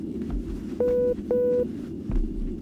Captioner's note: intercom beeps